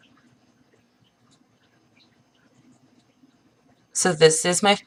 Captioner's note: pause